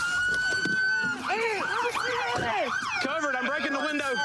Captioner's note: shouting